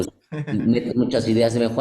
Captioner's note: laugh